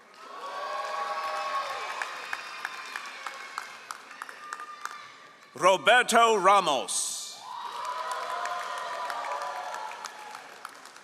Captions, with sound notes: (all applauding) Roberto Ramos. (all applauding)